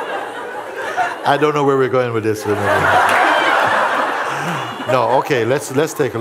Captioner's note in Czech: smích; smích